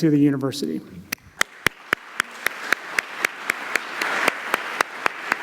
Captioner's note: applause